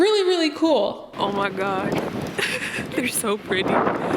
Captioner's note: giggling